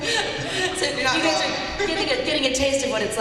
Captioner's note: laughter